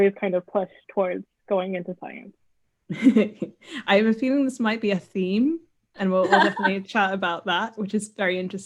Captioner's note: laughs